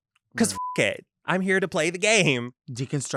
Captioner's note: beep